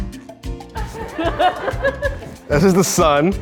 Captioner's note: audience laughs